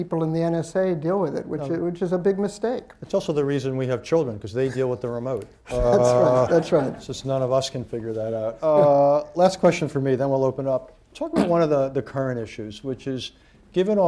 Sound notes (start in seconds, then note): 5.7 laughter; 5.7 laughs